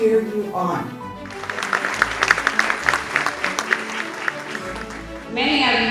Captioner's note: audience applauding